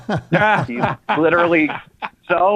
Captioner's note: laughter